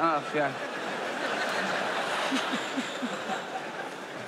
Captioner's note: audience laughs